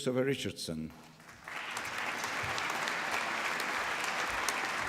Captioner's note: applause